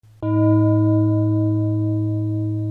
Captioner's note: bell tolls